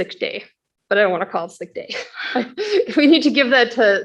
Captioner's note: chuckles